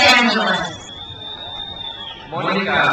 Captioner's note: crowd cheers